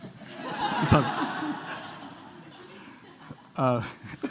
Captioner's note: laughter